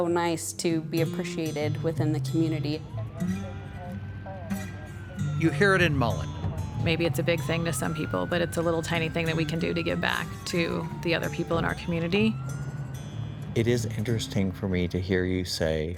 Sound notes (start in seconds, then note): 12.5 siren sounds